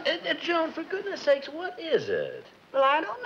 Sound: stammers

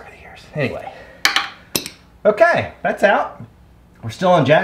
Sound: clinking

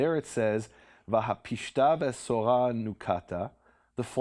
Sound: speaking in Hebrew

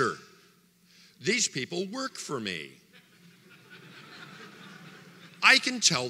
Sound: audience laughter

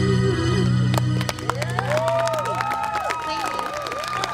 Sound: audience cheers and applauds

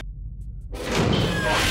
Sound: door slams

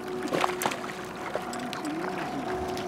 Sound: reel cranking; fish splashing

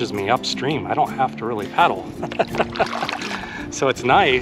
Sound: laughs

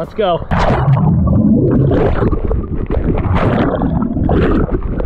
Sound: underwater splashing

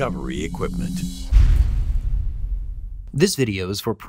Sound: dramatic sound effect; male Voice

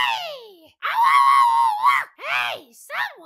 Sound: shouts

